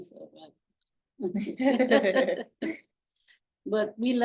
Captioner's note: laughing